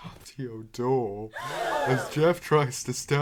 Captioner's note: gasp